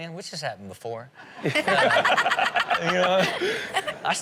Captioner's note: audience laughs